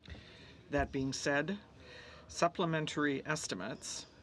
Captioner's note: speaking French